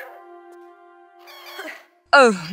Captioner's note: bird noises